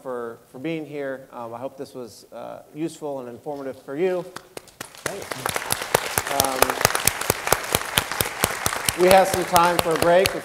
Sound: applause

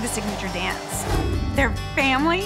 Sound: whoosh

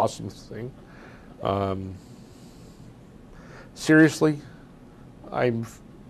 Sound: pauses for 3 seconds

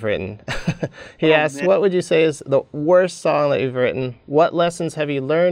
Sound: laughs

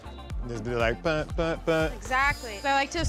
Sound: humming

